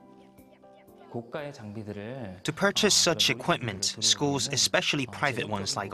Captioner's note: Korean